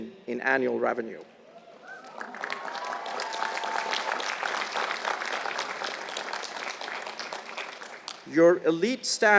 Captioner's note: applause